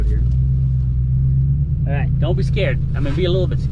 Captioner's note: tires screeching